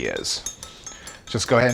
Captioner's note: glass clinking